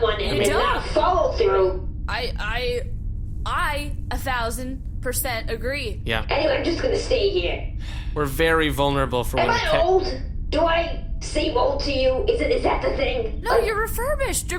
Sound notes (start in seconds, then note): 7.8 sighs